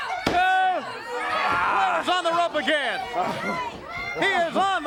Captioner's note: crowd chatter